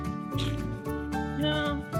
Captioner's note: laughs